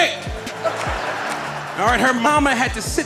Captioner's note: audience laughing